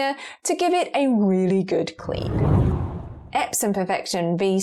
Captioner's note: video effect whooshes